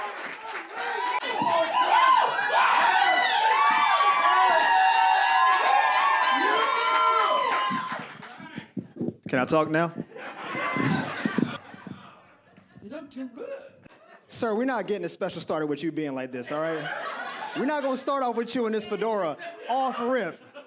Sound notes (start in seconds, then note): 0.0 audience cheers and claps; 0.0 audience cheers